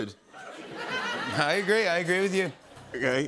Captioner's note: laughter